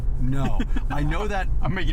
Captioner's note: laughs